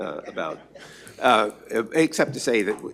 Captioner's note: laughter